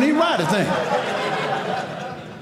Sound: audience laughing

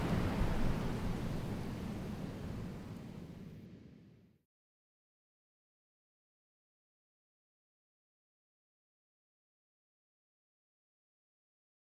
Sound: silence

